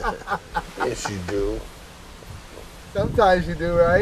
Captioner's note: laughing